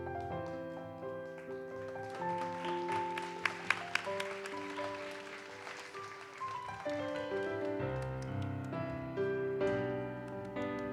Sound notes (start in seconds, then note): 3.0 audience applauds; 7.3 gentle music continues